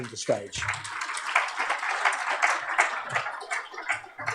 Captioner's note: applause